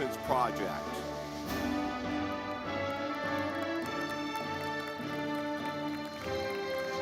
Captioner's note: audience clapping